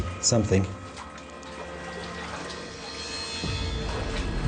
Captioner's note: water splashing